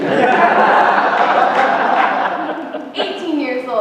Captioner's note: laughter